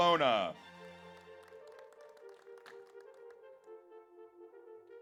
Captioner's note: audience applauds